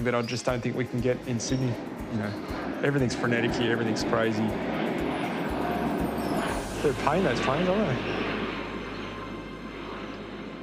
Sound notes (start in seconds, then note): 4.1 plane roaring loudly; 7.7 engine roar continues